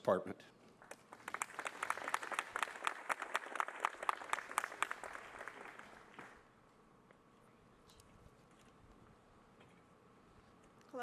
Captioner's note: applause